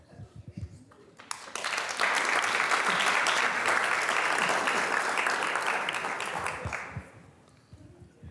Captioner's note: students applauding